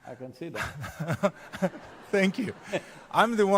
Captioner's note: laughs